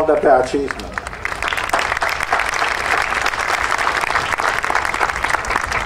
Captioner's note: audience applauding